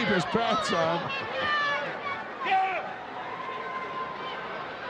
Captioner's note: crowd yelling